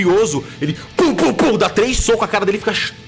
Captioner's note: pow pow pow